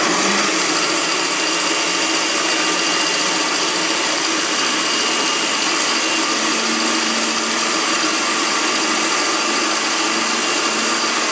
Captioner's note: loud food processor noise